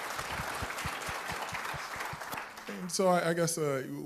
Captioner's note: applause